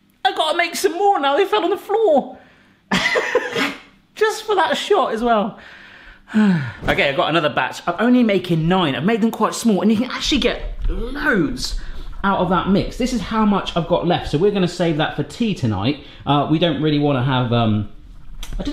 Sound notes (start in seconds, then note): 2.7 laughing; 5.7 sighing